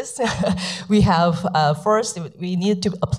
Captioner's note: laughs